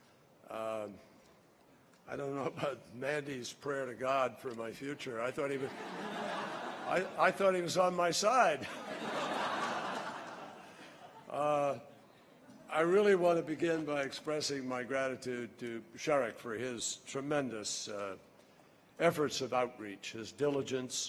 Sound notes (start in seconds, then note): 8.6 laughter